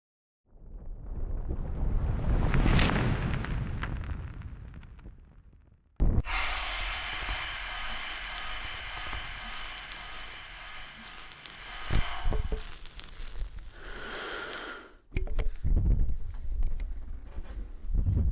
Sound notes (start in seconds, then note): 6.2 breath